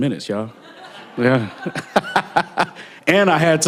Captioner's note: laughter